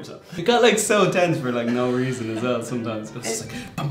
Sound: girl laughs

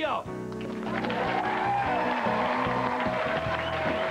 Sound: audience cheering and applause

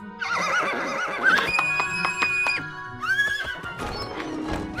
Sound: whinnying and clapping

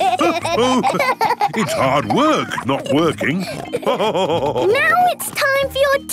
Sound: giggling; laughing

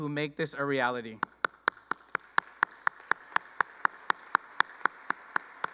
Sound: claps

